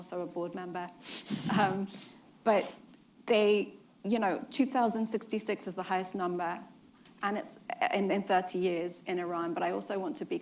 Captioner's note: laughs